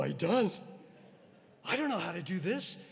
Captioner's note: audience laughing